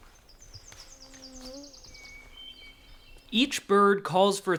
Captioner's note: insect buzzing